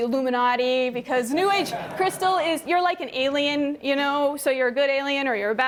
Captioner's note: laughter